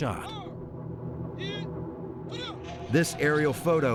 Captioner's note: speaking in foriegn language